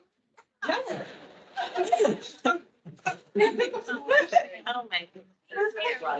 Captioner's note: attendees laughing